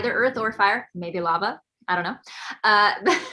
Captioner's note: laughs